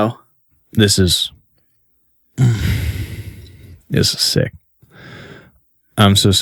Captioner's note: labored sigh